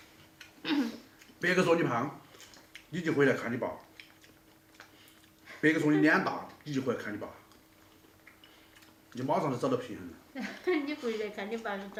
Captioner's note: they chat